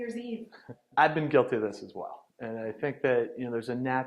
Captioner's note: laughing